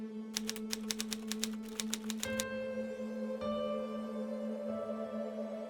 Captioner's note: typewriter typing; ominous music